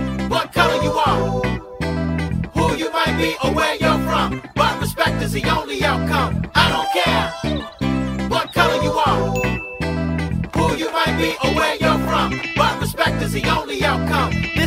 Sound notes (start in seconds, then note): 9.3 bell dings